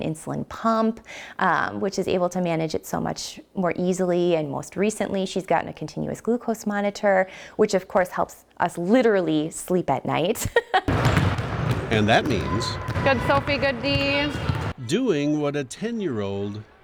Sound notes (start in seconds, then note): 10.4 laughter; 10.8 dribbling